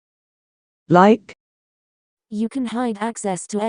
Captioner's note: Proloquo2Go voice